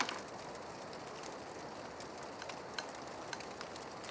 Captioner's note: fire crackling